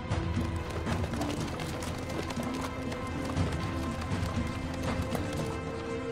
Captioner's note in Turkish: Nal sesleri